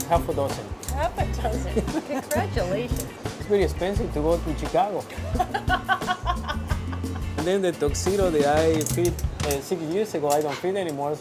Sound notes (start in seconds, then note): 5.1 laughs